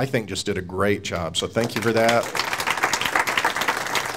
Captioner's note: audience applauding